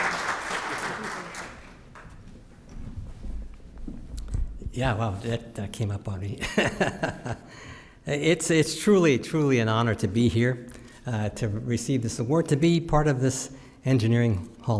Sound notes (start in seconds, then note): 6.7 laughs